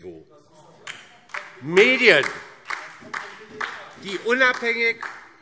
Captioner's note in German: Heiterkeit und Beifall DIE LINKE und vereinzelt CDU